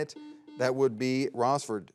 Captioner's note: buzzer beeps